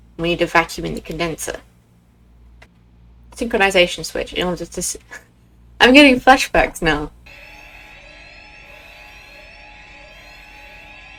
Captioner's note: flashback to every alarm going off at once